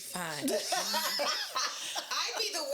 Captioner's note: laughing